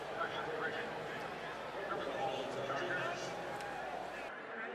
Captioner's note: pa announcement